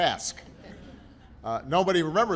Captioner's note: laughter